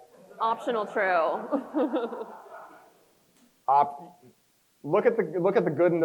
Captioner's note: crowd chuckles; chuckles